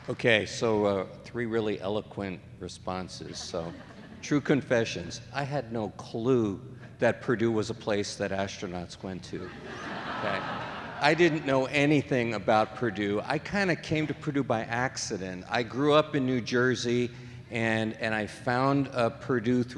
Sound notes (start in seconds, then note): 9.4 audience laughing